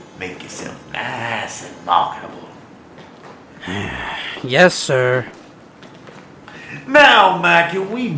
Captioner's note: grumble